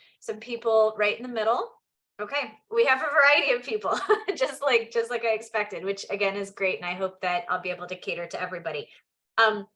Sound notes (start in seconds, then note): 3.9 chuckles